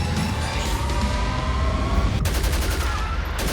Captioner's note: thunderous gunfire